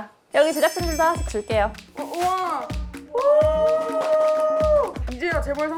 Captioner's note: cheering staff